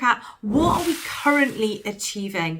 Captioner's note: whooshing sound